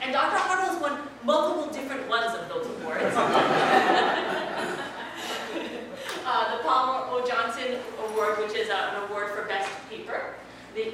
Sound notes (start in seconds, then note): 3.1 laugh